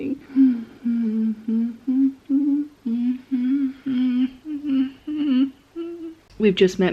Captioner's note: starts humming a tune. appears to slowly be going mad